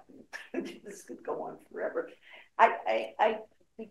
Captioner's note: chuckles